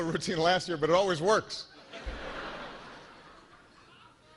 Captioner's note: laughter